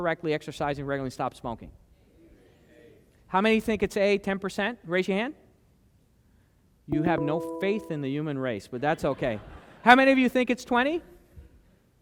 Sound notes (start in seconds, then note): 6.9 beep sound; 9.1 laughter